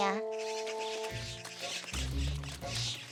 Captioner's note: squawking